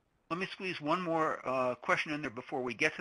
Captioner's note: voiceover